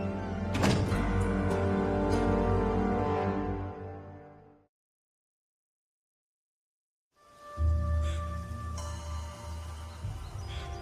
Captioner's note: door opens, closes